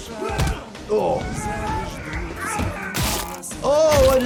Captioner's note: fighting and yelling